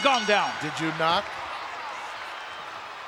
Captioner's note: bell rings